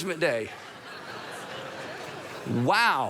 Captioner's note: congregation laughs